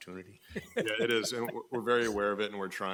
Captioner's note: laughing